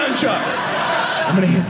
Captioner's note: audience laughing